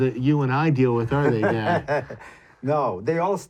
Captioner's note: laughs